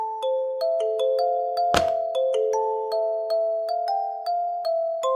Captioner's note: papers slapping table